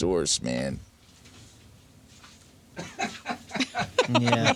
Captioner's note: laughter